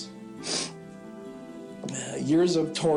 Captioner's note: sniffles